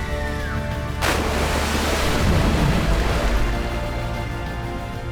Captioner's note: splashing